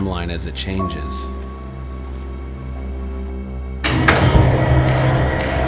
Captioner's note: large door opens; dramatic music